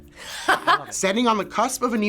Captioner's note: laughs